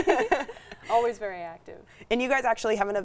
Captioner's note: laugh